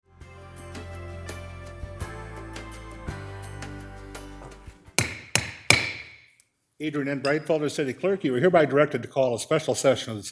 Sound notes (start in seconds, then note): 0.4 bright music; 5.0 gavel taps